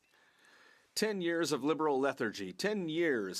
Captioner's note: speaking French